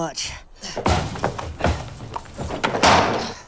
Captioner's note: stamps; pail clatters